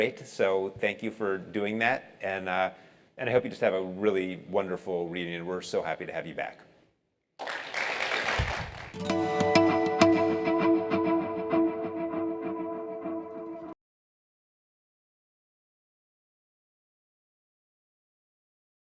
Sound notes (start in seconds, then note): 7.4 applause